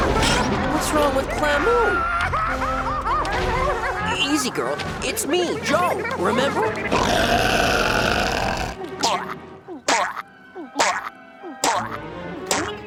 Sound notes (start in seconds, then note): 0.0 screaming, crying; 1.9 crying; 6.8 growling; 8.7 choking